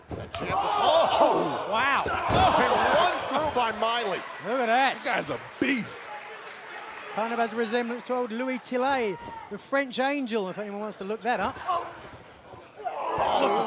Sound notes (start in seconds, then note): 7.1 crowd cheering